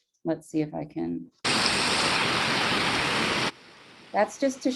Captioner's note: water splashing